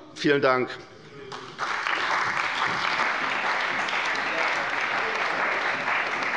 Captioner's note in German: Beifall bei der CDU und dem BÜNDNIS 90/DIE GRÜNEN